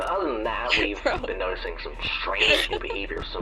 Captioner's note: laughing